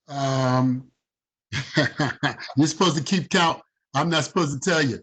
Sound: chuckling

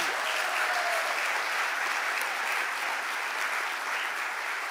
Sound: audience applauding

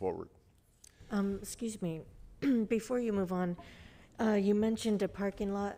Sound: clears throat

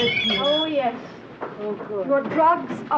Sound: doors squeaking

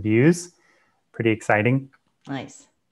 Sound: breath

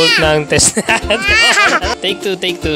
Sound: laughing

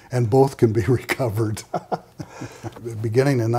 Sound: laughing

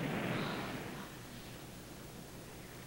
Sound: explosion

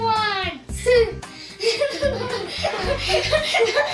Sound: giggling

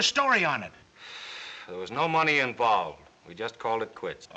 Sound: sighs

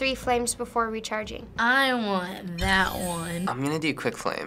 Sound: selection chime

